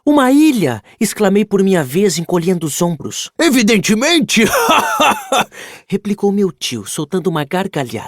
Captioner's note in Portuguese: risadas